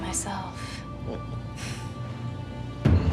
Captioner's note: chuckles